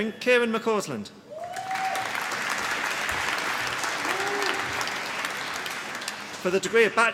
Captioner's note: applause